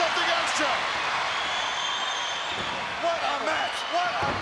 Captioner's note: crowd yelling